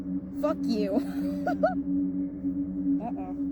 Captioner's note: laughing